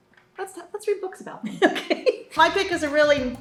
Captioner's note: laughs